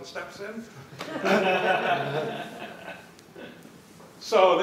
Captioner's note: laughter